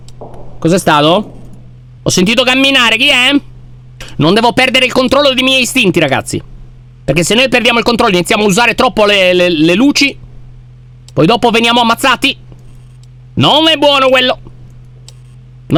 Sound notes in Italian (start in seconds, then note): 1.1 rumore di passi